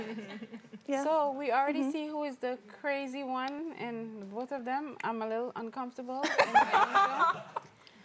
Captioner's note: laughs